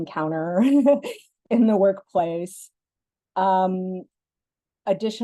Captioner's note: laugh